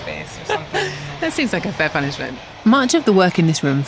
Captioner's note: laughs